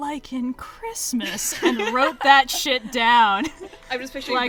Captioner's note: laughs